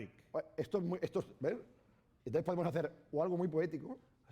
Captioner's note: speaking spanish